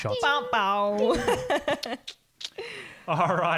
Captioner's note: laughing